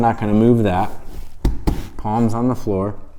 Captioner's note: palms smacking